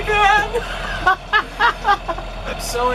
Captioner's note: laughter